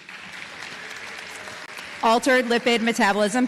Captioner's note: applause